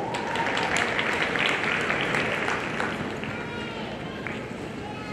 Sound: audience applauding

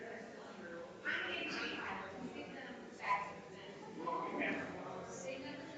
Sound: people chattering distantly continues

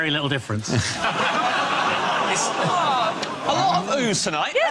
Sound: audience laughs

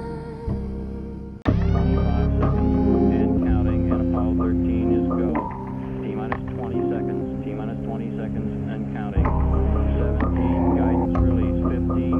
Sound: voice in background counting down

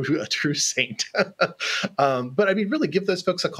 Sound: laughs

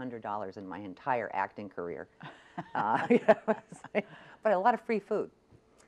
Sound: laughs

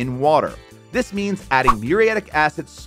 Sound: graphics swishing

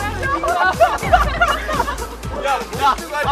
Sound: spitting out water

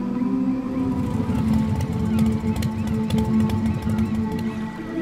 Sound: meditative music; engine purring

